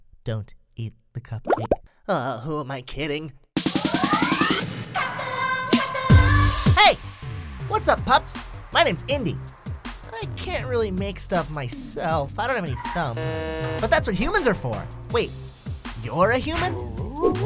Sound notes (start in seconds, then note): 3.6 upbeat music; 13.1 buzzer honking